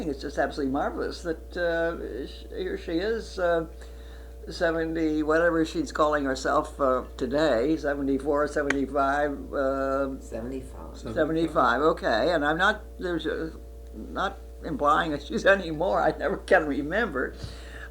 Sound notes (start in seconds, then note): 15.9 laughs